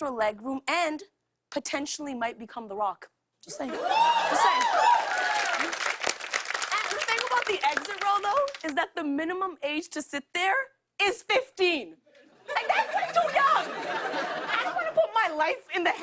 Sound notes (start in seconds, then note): 3.7 cheers and applause